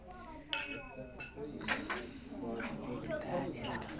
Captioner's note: group chattering; glasses clang